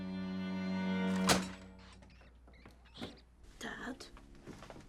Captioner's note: latch clangs